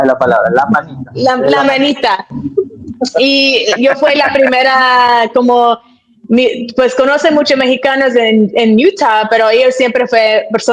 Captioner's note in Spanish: risas